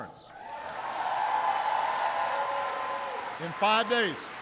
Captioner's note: applause